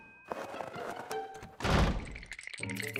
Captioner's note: doors slam; teeth chattering